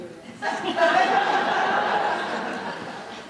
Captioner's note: laughter